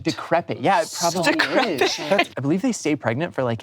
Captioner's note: laughs